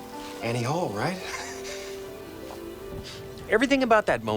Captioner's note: chuckles